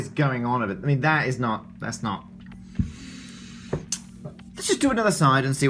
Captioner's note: breathes in heavily